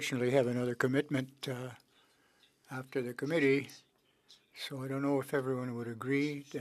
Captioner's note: speaking French